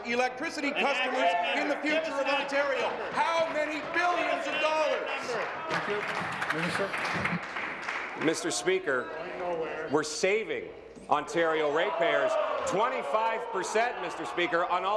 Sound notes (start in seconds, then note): 8.5 applause